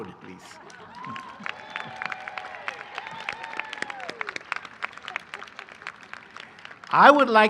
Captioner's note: cheering and applause